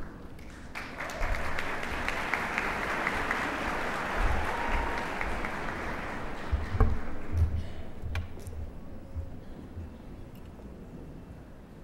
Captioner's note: applause